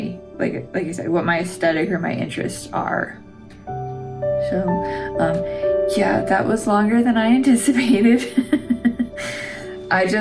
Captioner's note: laugh